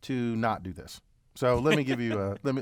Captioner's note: laugh